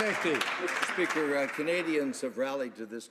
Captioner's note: some Applause